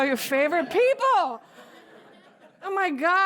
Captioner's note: laughter